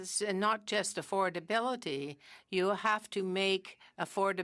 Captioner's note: speaking french